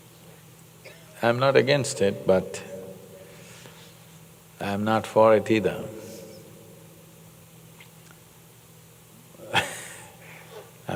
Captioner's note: laughs